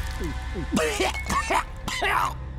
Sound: coughing

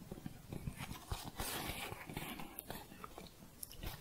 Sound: scratching

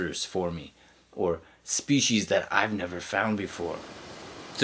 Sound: waterfall noise

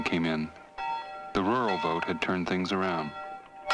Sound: bell ringing

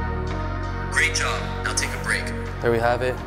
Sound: recorded app voice

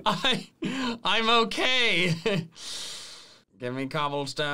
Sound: laughs; laughs

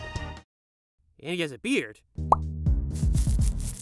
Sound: beard scratching

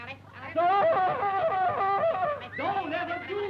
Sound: screams

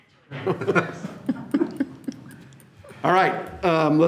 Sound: all laugh

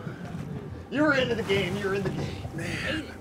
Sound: chuckling

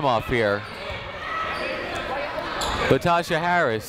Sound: people shouting in the crowd

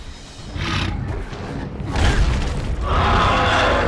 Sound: growling

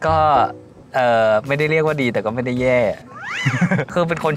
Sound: laugh

